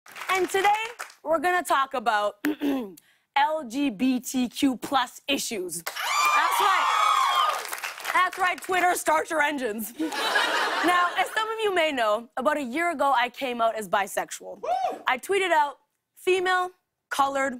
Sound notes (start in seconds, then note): 2.4 clears throat; 5.8 cheers and applause; 10.0 laughter